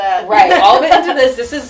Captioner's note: laughs